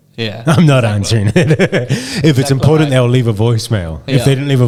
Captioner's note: laughing